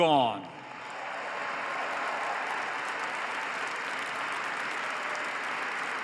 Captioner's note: applause